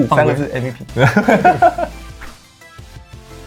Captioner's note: laughs